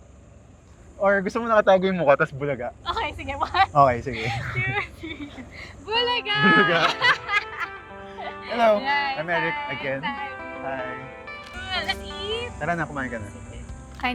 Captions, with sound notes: —or maybe we can hide our faces, and then bulaga. Okay let’s do that. Okay, one, two, three. Bulaga!!! [Both laugh] Hello, I’m Erik! Hi, I’m Sary! Cool! Let’s eat!!! Let’s go. You can eat now.